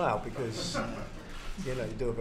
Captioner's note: laughter